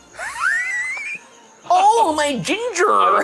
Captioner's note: laughs